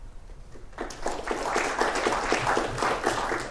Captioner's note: applause